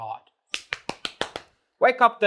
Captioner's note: claps face